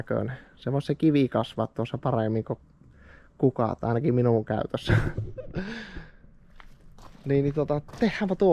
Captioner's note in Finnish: naurua